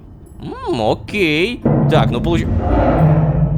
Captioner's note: knock on door